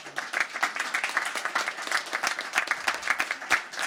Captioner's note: crowd applauding